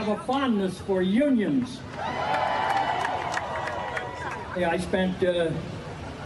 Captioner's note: applause